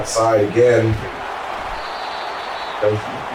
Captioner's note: crowd Noises